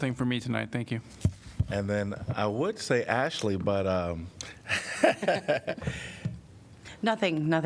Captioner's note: laughter